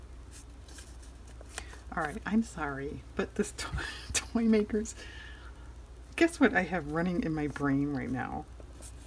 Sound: laughs

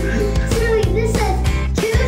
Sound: person laughing

